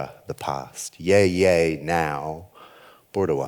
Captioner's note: speaks foreign language